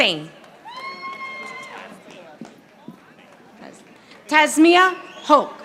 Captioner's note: audience applauding